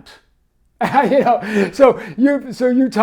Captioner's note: laughs